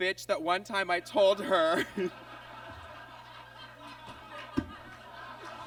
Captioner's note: audience laughs